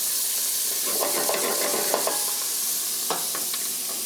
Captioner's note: loud sizzling noise